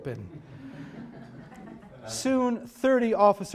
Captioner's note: audience chuckling